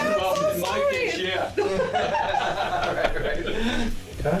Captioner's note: laughing